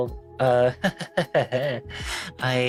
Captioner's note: nervous laughter